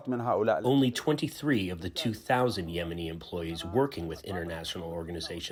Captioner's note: through translator